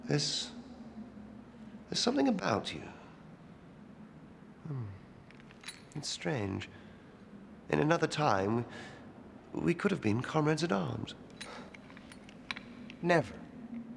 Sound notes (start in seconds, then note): none